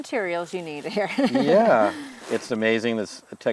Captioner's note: laughing